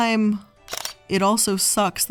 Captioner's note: camera shutter clicking